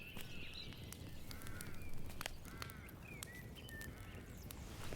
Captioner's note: birds chirping